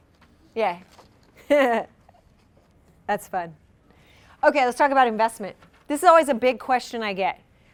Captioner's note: haha